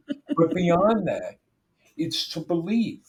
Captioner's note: laughing